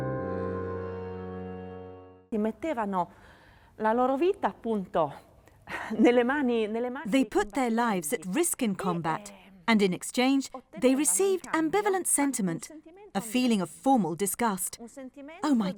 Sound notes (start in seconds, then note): 2.5 speaking in foreign language